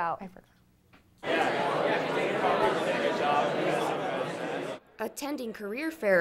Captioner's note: crowd